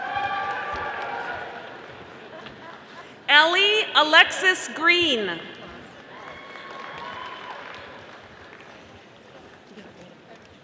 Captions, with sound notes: (audience applauding) Ellie, Alexis Green. (audience applauding)